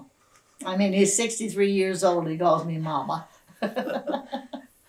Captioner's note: laughter